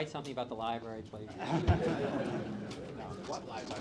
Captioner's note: laughter